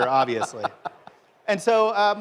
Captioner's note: laughter